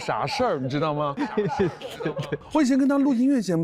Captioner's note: hahaha